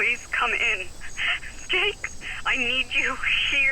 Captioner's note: Mia's panicked breathing